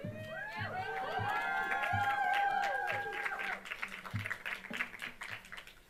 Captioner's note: audience cheering and applauding